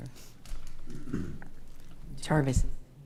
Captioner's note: clears throat